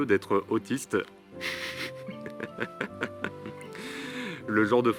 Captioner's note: laughs